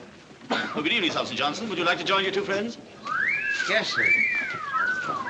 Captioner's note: wolf Whistle